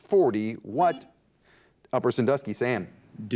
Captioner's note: buzzer dings